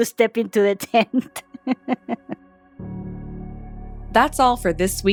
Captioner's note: laughter